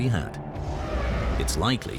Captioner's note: dragon roars